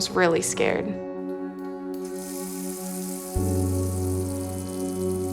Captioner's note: water splashes